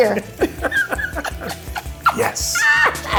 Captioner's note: laughing